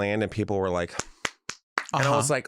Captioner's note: claps